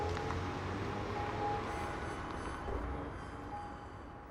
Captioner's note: engine rumbling